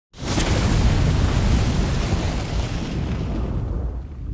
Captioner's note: flames sizzling